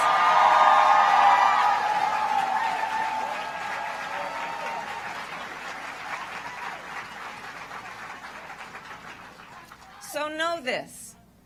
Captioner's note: applause